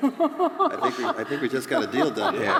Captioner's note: laughter